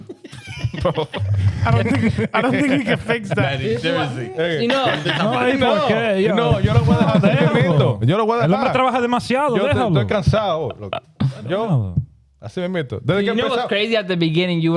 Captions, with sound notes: (Laughing) I don't think you can fix that, seriously. (Speaking In Foreign Language) You know what's crazy at the beginning,